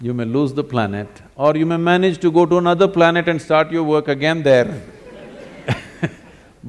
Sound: laughter

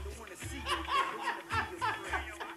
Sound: loud laughter

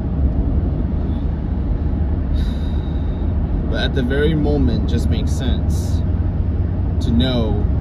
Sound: exhales

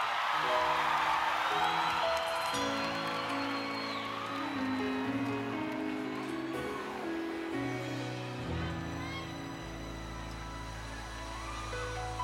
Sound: applause

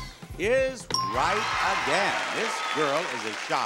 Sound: audience cheering

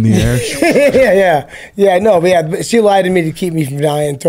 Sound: laughs

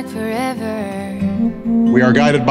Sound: female starts singing; phone vibrates

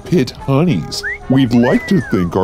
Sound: wolf whistle

